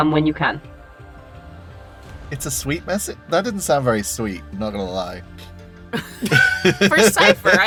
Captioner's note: chuckles